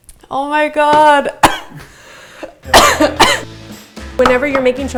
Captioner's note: coughs